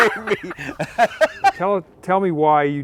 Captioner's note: laughing